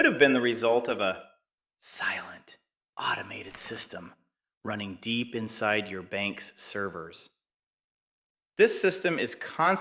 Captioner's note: whispers